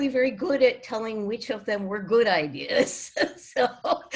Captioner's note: laughs